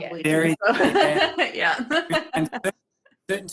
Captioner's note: group laughing